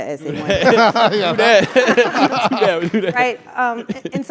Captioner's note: laugh